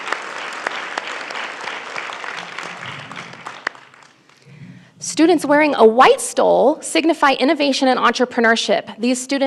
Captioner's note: applause